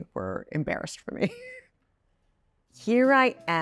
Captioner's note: Chloe laughs